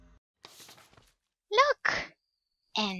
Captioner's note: paper flip